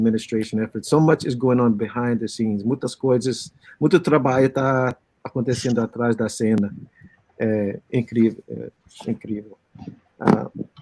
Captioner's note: speaking Portuguese